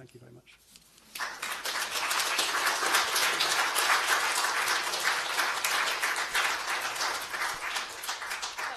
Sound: applause

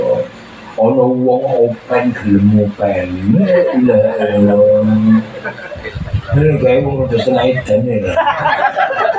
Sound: laughs

